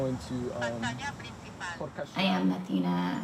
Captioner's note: phone speaking in Spanish